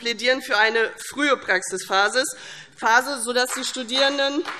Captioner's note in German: Beifall CDU